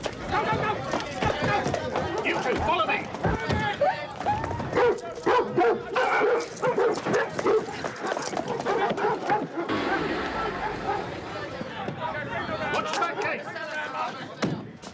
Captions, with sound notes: - Go! Go! Go! Go! Go! - You two follow me! (dog barking) watch the back Keith!